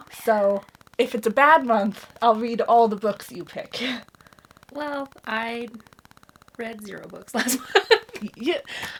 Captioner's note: laughs